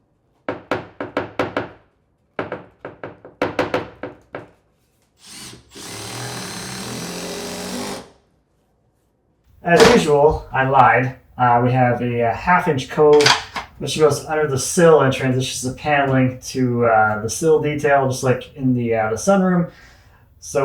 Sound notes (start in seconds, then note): 5.2 drill drilling